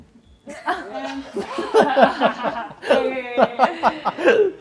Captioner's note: laughter